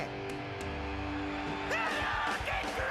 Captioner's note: fans cheering